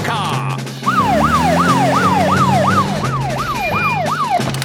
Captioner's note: siren wailing